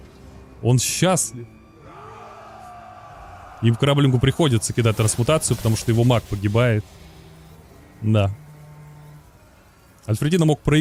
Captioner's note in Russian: крик